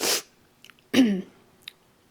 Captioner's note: sniffles